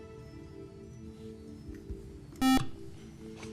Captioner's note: beep